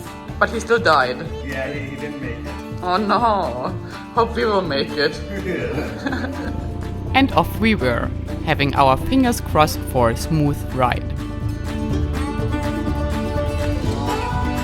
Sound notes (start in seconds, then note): 5.3 all chuckling; 11.9 lively music